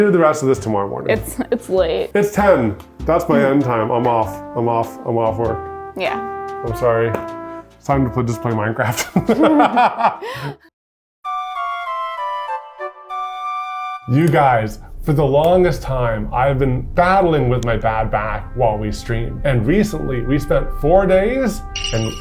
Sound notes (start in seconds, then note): 8.9 laughs